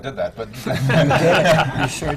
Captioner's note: laughter